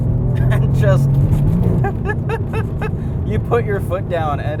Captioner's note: laughs